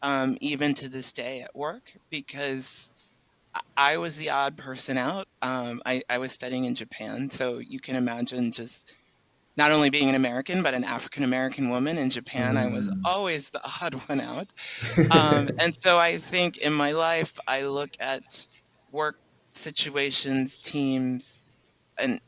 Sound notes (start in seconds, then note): 14.8 laughs